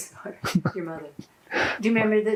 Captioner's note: laughing